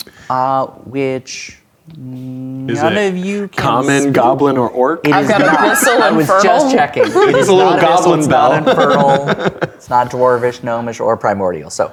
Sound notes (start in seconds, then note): 9.5 laughing